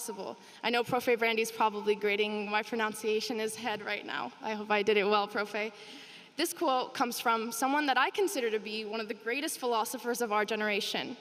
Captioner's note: speaking spanish